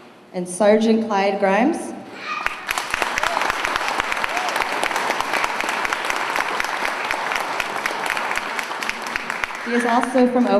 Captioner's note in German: Beifall